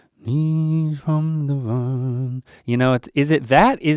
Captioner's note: Link humming